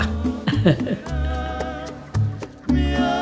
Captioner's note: laughter